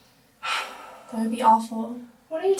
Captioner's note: Hannah sighs